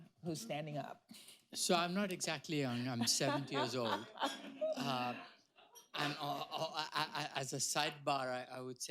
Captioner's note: laughter